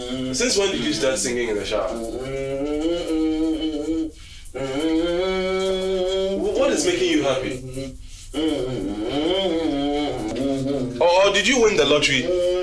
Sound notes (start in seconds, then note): 8.3 humming continues